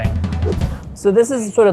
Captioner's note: graphics whooshing